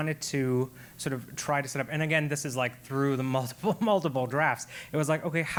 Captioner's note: laugh